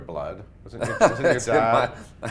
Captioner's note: Blair laughs